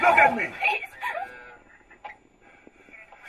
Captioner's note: cries